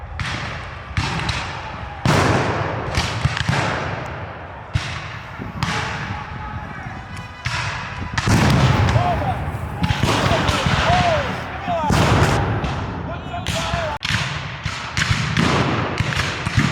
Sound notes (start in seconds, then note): 7.6 dramatic bugle music; 13.6 guns fire